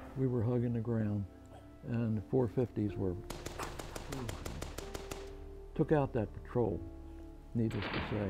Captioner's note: gunshots